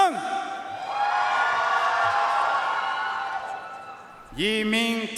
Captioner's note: audience cheering and applauding